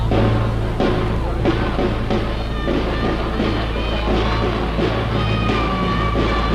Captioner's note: rhythmic drumming; people yelling